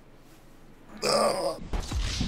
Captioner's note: grunt